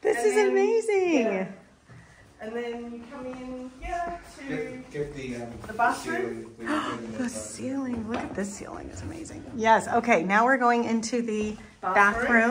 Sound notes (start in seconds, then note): 6.6 sighs; 6.6 husband chattering